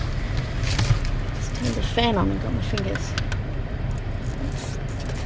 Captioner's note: fan button clicks twice